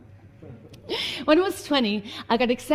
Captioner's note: light laughter